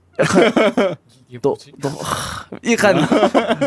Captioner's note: sigh